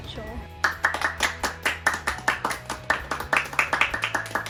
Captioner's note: family clapping